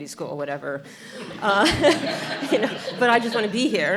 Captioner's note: audience laughter